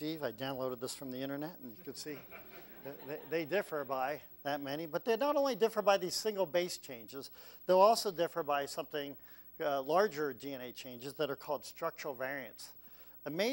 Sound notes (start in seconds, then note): 2.0 laugh